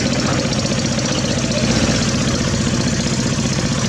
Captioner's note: diesel Engine Sound